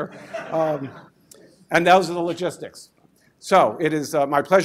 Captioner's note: laugher